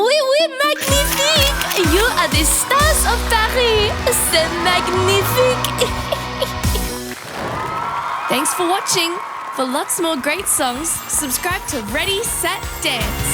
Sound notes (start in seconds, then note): 5.8 instructor chuckling; 7.3 audience applauding; 7.3 audience cheering; 13.1 upbeat music